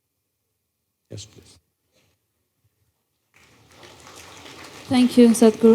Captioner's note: applause